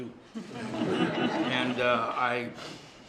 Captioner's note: laughter